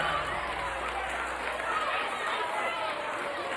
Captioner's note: crowd cheering